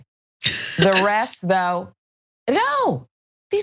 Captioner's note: laugh